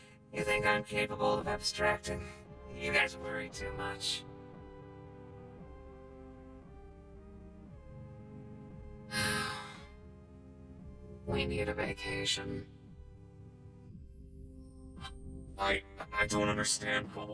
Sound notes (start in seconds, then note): 9.1 sighs